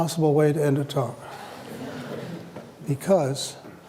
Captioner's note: laughter